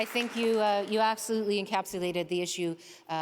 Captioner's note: applause